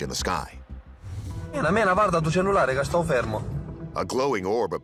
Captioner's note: man speaking foreign language